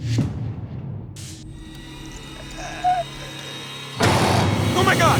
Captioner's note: dorsey grunts